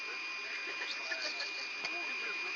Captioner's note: laughter